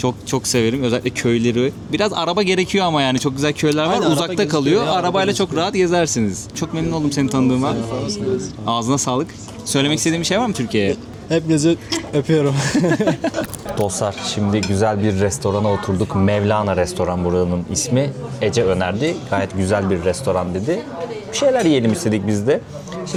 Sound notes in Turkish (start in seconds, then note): 12.5 kahkaha